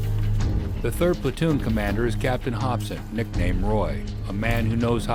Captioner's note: voiceover